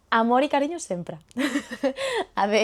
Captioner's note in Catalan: riure avergonyida